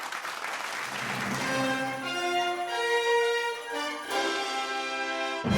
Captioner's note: audience clapping; bright upbeat music